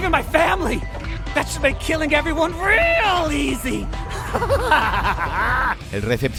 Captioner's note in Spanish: risa de maníaco